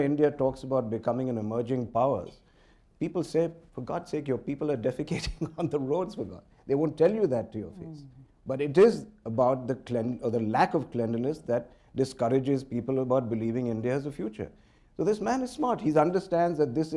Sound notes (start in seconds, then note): 7.9 laughter